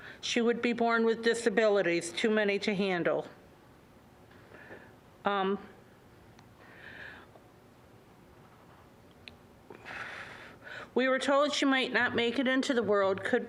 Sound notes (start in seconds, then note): 9.7 exhaling